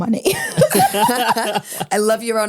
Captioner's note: everyone laughs